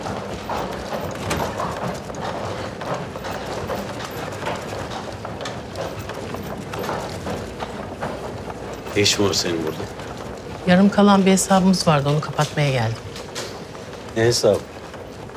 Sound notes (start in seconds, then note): none